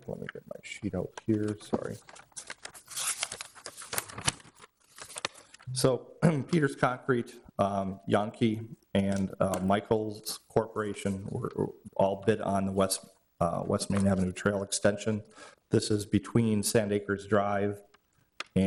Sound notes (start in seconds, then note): 2.5 ruffling papers